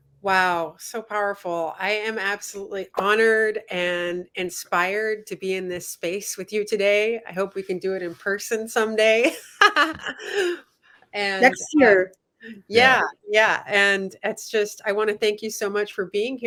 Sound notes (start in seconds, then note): 9.2 laughter